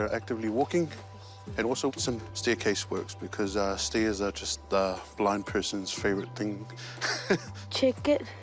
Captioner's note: laughs